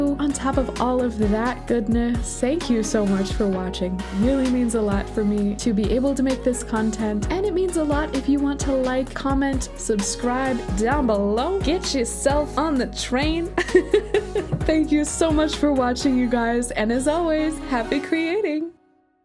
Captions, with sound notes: On top of all of that goodness, thank you so much for watching. It really means a lot for me to be able to make this content, and it means a lot if you want to like, comment, subscribe, down below Get yourself on the train [laughs] Thank you so much for watching, you guys, and as always, Happy Creating!